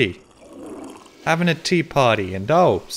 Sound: toilet flushes

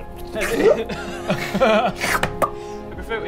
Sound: alarmed giggle

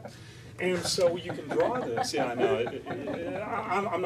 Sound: laughter

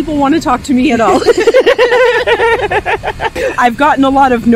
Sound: both laughing

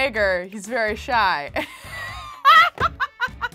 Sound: laughs

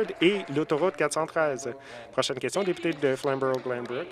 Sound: some Applause

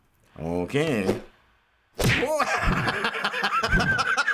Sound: laughs

